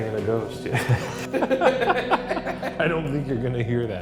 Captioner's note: both laughing